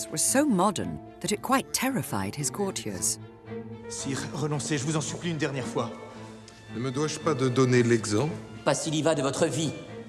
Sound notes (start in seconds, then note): 4.1 men speaking in French